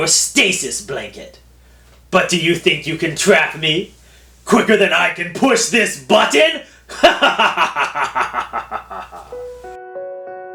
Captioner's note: laughs; sad music